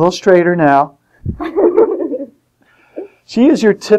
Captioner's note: laughter